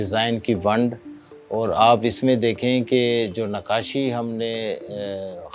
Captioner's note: speaking foreign language